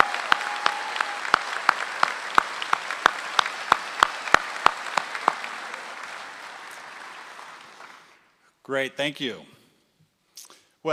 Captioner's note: applause